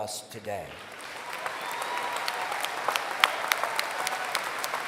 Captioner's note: applause